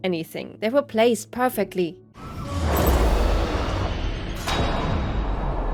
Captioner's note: airlock closing